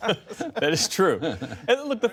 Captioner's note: laughter